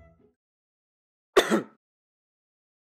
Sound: cough

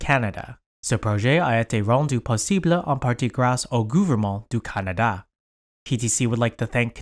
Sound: speaking in foreign language

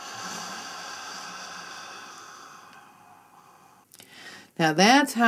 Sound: sound of inhalation - "Hhhhh"; sound of exhalation - "Hhhhh"

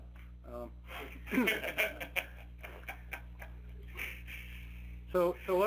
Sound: participants laughing

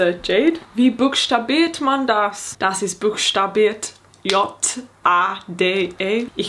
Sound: speaking in foreign language

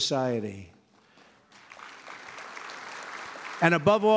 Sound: applause

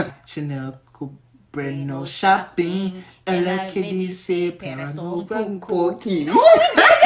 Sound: trying to speak in Portuguese

